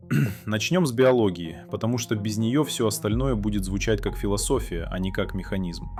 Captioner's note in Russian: откашливается